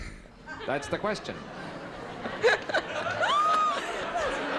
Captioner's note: laughter